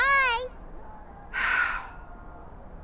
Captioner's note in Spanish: Suspiro